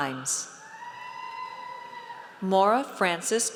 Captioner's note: audience cheers